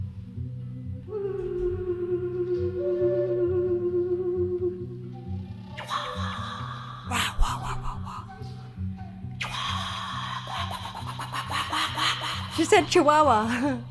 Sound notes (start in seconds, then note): 7.4 mimicking the sound; 9.7 continues singing